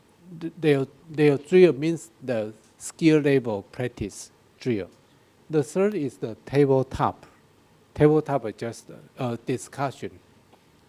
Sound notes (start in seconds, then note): none